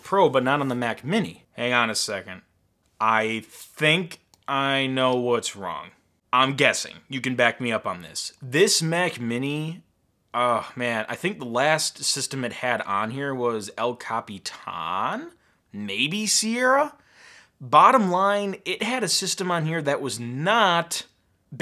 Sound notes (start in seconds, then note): none